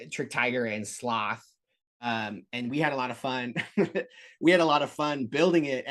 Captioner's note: laughter